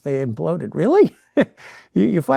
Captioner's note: chuckles